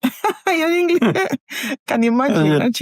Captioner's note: laughs